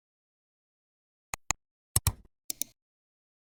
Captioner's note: 3 different clicks